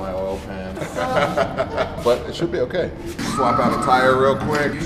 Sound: laughs

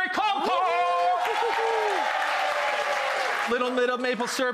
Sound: applause

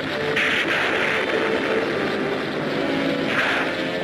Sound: thunder cracking

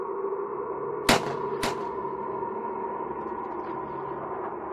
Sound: weapons firing

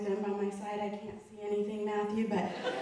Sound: audience laughing

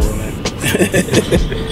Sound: chuckles

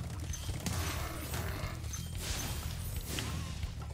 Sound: bulls grunt

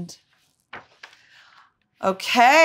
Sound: book page turns

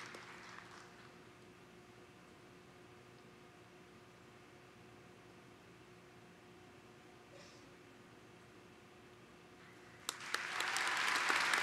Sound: applause

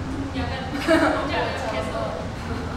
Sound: laughing

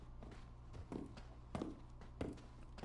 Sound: even more spooky footsteps

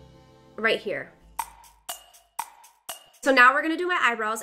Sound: clock ticking

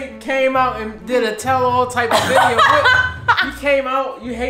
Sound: laughs

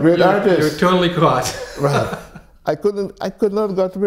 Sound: laughs

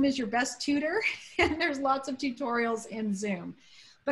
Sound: laughter

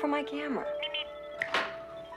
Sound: Steve Trevor snaps his Fingers

